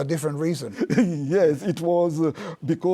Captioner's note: laughs